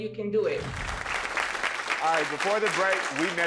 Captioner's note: audience applauding